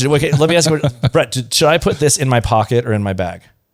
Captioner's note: laughs